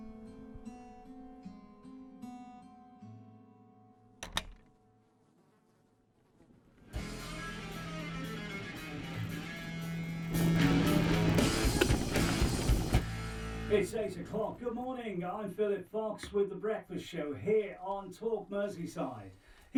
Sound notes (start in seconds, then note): 4.2 door shuts; 6.8 radio jingle plays; 10.2 kettle boils